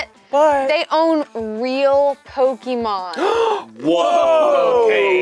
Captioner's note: gasps